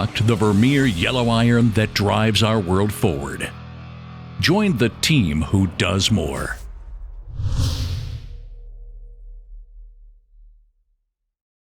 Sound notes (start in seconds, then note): 6.6 whoosh